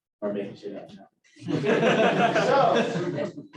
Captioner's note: laughter